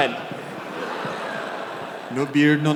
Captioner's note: audience laughter